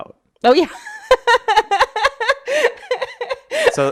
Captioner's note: laughs